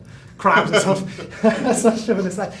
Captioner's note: all laughing